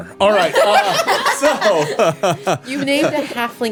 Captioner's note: everyone laughing